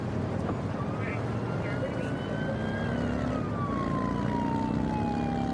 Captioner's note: siren blaring